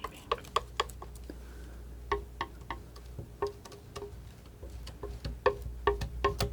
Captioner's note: tapping